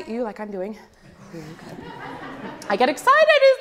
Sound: audience laughs

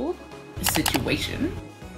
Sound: "situation" audio and double mouse click

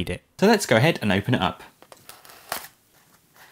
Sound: slicing through tape

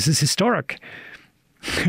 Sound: laughs

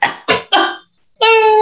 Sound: coughing

